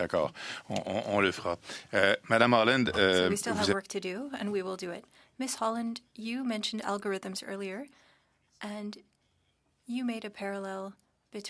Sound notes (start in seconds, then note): 2.9 speaking French